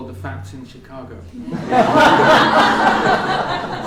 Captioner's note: laughter